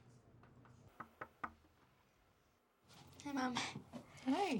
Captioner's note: knock on door